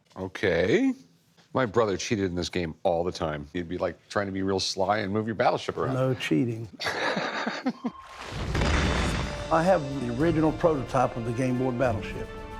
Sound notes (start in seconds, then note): 6.8 laughter